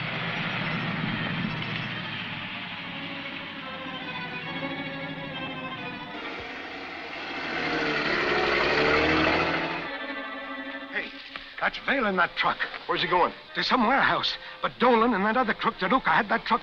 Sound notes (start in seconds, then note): 6.3 truck engine